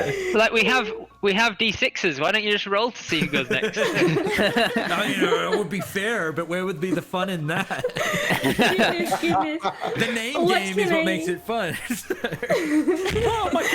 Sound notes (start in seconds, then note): 3.2 all giggles; 6.7 giggles; 12.1 more laughter and mics peaking